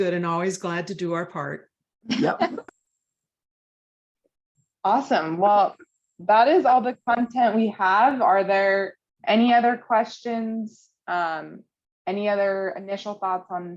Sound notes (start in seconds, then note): 2.1 laughter